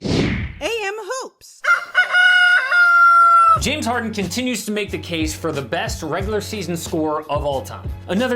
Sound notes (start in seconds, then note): 0.0 logo whooshes; 1.6 rooster crowing